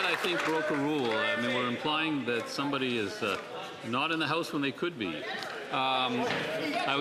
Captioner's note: some Applause